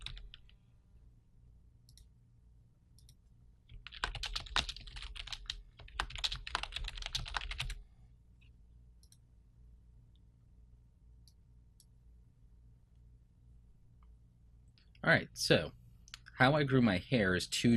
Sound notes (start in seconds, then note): 6.8 typing on keyboard